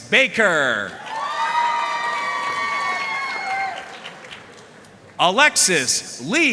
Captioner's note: audience cheering and applauding